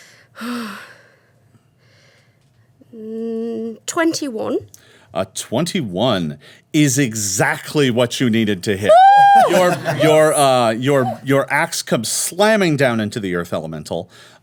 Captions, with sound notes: - A 21 is exactly what you needed to hit. (Omelet screams) Your ax comes slamming down into the Earth Elemental.